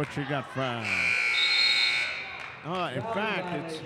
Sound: buzzer dings

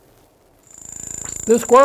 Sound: rapid electrical noises and clicks

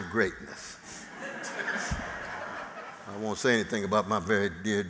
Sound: laughter

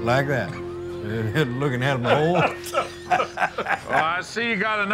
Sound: laughing

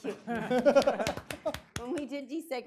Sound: audience applauding

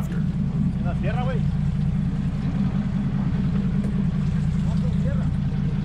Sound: speaking in spanish; boat engine idling

